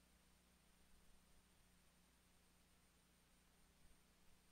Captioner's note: none